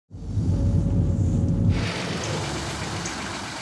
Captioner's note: engine running